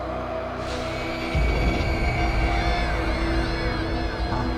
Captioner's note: distant screams